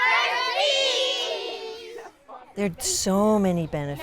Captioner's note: kids yell for a picture